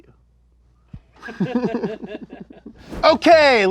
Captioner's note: laughter